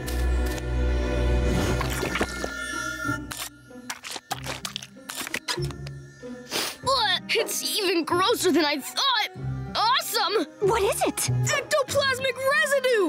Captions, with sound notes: [sniffing] Ugh! It's even grosser than I thought. Awesome. - What is it? - Ectoplasmic residue.